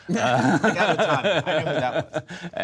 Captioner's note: laughter